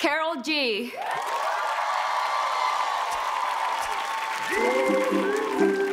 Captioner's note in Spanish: audience applauds